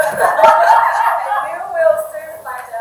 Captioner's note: audience laughing